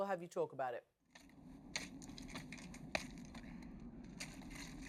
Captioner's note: rocks breaking